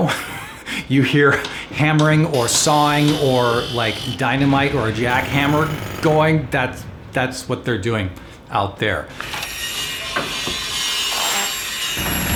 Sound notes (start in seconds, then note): 0.0 laughs; 9.2 tools buzz